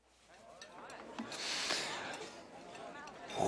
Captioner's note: <i>chattering resumes,</i> <i>Ajax breathes deeply</i>